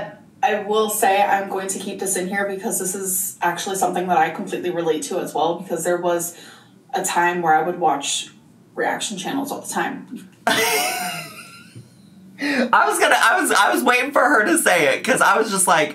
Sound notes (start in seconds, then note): 10.4 laughs